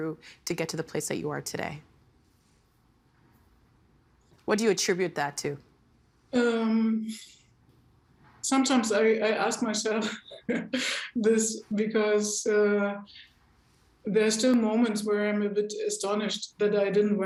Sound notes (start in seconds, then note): 5.9 chuckling